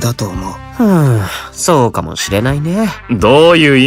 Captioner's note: sigh